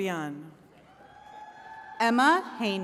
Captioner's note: attendees cheering